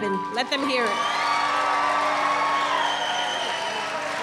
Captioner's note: applause